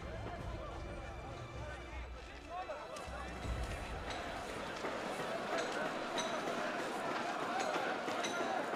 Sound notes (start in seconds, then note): 3.7 all chattering